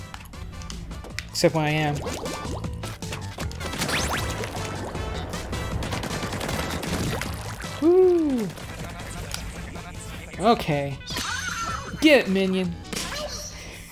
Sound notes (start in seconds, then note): 2.0 blop-blop-blop-blop; 4.5 dull scraping